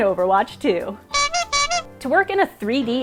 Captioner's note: clownlike honking